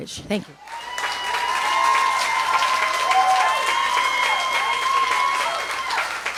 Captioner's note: audience cheers and applauds